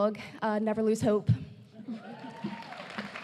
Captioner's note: applause